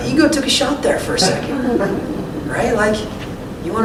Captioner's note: laughter